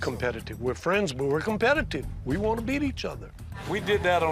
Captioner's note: none